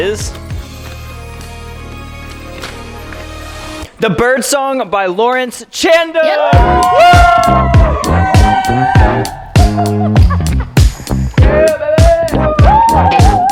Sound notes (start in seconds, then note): 0.0 inspirational music; 6.2 all cheering; 6.5 upbeat music